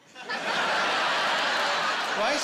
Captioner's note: laughing